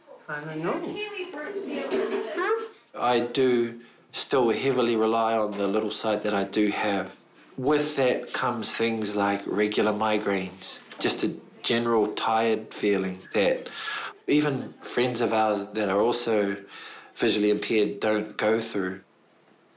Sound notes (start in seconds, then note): none